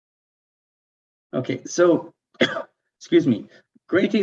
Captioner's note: coughs